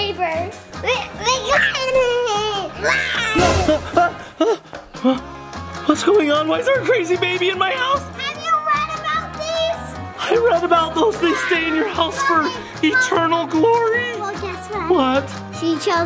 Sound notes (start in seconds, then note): 2.9 baby screams; 3.9 yells